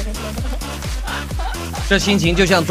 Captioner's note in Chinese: 偷笑